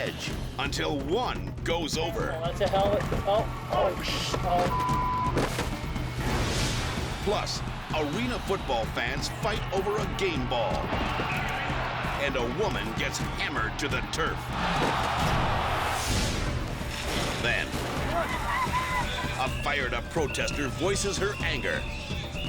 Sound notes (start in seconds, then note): 4.5 beep